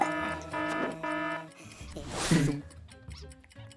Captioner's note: clock buzzes; clock ticking